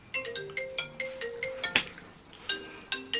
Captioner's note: phone ringing